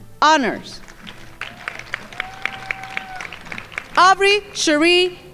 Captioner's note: crowd applauding